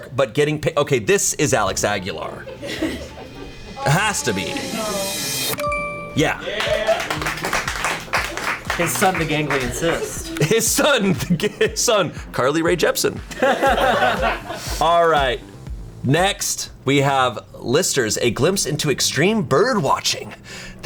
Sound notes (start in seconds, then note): 6.4 colleagues applauding; 13.2 colleagues laughing